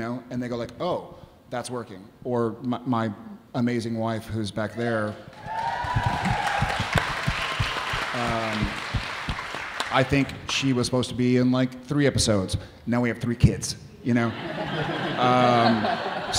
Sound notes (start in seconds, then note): 5.2 audience cheering; 14.3 audience laughing